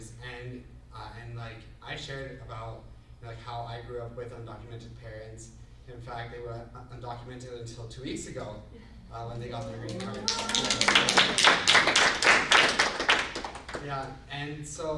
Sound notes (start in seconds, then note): 11.0 group applauds